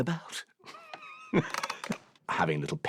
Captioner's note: laughs